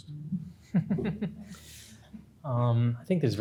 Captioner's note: laughs